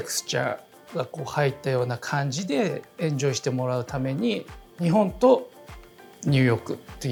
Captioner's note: continues speaking Japanese